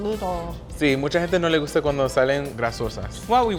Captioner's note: speaking Spanish